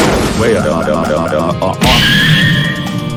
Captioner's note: screaming